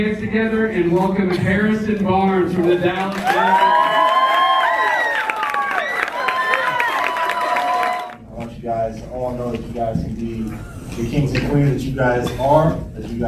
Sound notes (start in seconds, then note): 6.1 applause; 9.1 cheering